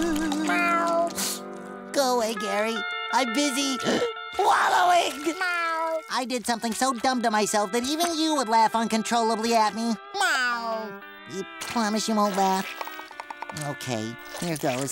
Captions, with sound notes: [meowing] Go away, Gary. I'm busy wallowing. [meowing] I did something so dumb to myself that even you would laugh uncontrollably at me. [meowing] You promise you won't laugh? Okay, here goes.